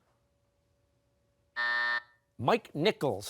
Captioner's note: buzzer